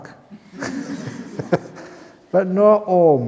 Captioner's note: laughter